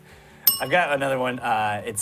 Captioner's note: bell rings